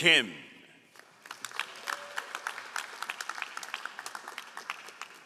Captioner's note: all applauding